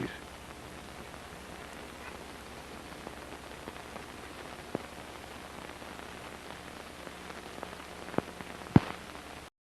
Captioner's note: static